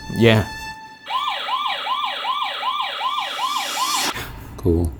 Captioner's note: motion alarm blaring